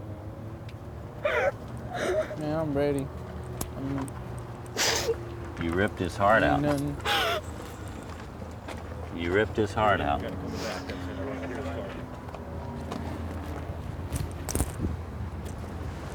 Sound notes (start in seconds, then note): 4.7 sniffles; 6.9 sobbing continues